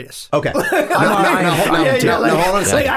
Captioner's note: all laughing